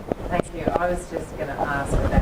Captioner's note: voiceover